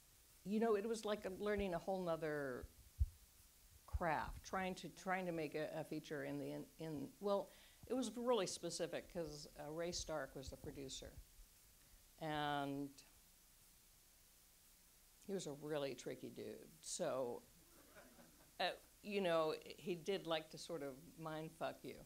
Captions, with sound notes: you know, it was like learning a whole 'nother...craft. Trying to, trying to make a feature in the end...in the, well... it was really specific because Ray Stark was the producer and he was a really tricky dude. So... [Audience laughs]. you know, he did like to sort of mind fuck you